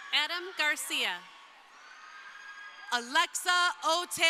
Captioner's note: crowd cheering